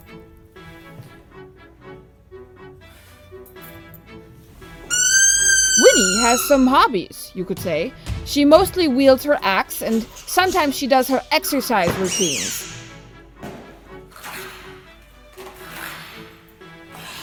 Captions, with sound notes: (squeaking) Winnie has some hobbies you could say she mostly wields her axe and sometimes she does her exercise routines.